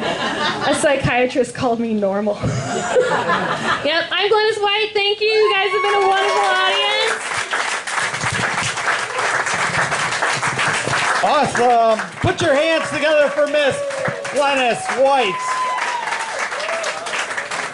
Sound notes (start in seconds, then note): 2.4 laughter; 9.1 clapping